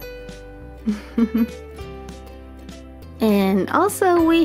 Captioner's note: laughs softly